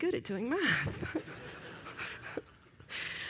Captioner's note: laughter